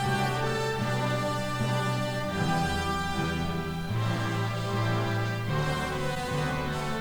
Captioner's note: none